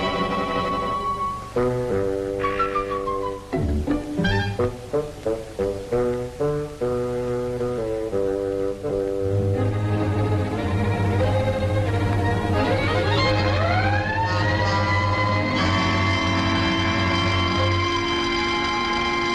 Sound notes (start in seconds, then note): 0.0 suspenseful music continues; 12.7 sirens blaring